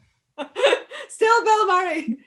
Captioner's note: Michelle laughs